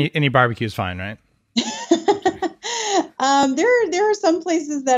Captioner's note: laughing